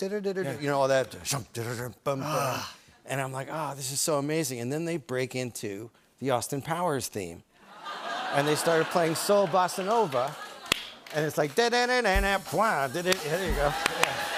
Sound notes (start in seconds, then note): 1.1 imitates fanfare; 7.2 laughing; 11.4 sings